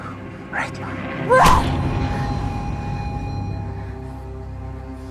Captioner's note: Aleks grunting